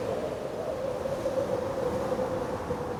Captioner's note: wind howling